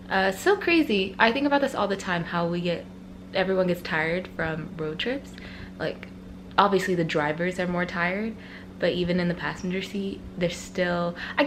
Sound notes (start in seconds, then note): none